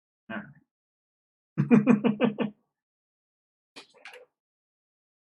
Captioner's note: laughs